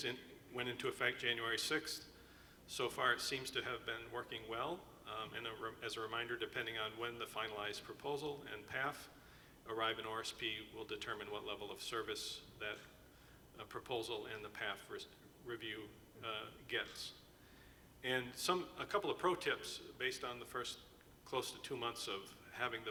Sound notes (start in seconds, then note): none